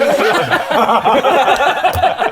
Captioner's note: laughs in style icon